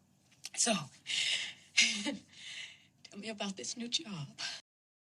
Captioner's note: chuckles softly